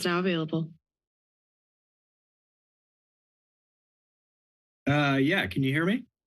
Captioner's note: silence